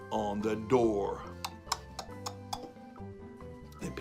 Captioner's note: knocking sound